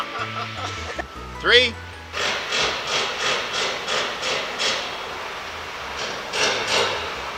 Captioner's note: loud banging